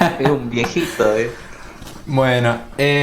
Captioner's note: laughter